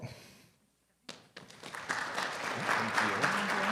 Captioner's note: audience clapping